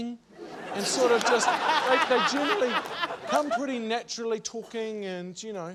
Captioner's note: laughter